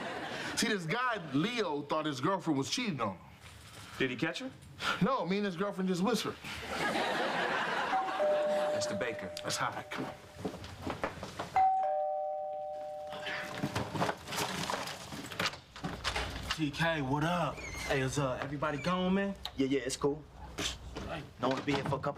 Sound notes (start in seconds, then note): 7.9 orbell rings; 11.6 ring